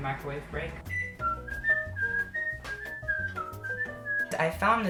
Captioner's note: whistles